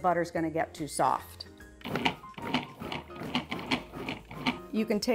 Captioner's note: food processor rumbles